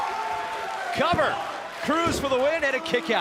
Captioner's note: cheers & applause